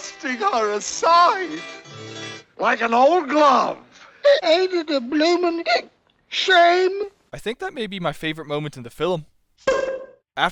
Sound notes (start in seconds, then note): 6.0 hiccups